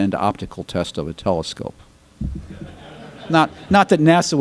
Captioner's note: audience laughter